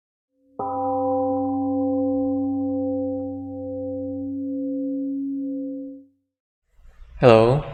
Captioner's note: temple gong rings and fades